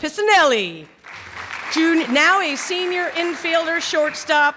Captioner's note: clapping